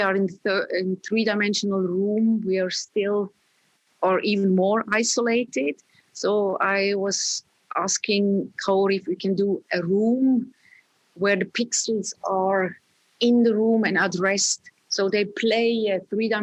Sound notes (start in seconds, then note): none